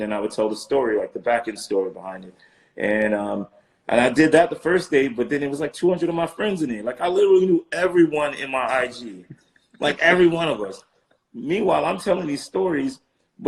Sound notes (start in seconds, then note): 9.8 laughing